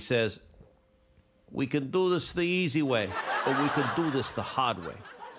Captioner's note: imitating carr